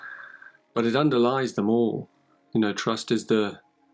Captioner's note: chuckles